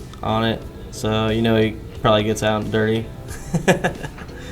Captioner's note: laughing